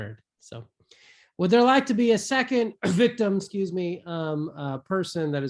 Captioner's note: coughs